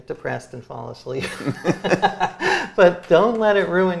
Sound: both laughing

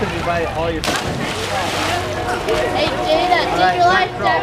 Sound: splash

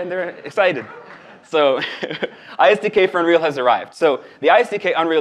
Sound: laughs

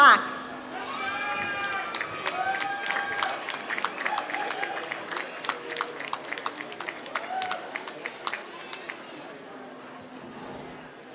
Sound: applause

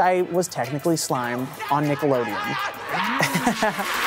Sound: laughing

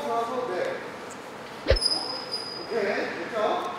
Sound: whoosh!

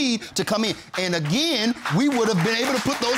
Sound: audience applauding

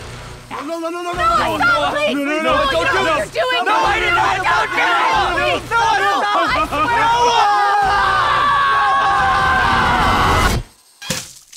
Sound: unintelligible screams; squish

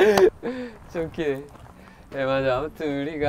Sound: laughing

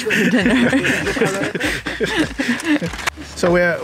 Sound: laughing

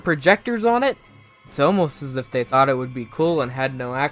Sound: sarcasticlly

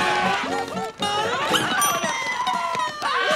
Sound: screaming; dinging; screaming

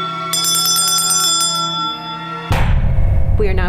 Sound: bell rings

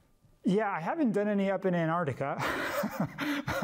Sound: laughing

